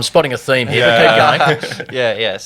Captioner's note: everyone laughing